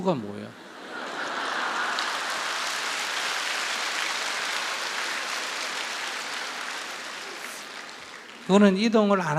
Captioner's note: questioner Laughter/Audience Applause